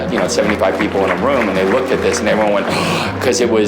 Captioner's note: gasps